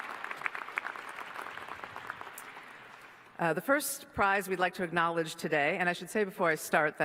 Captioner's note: applause